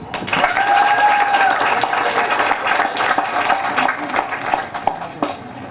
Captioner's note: applause